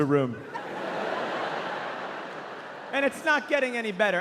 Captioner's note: audience laughing